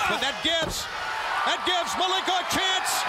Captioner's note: crowd chatter